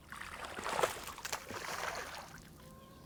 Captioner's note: water splashing